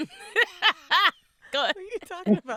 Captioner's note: laughing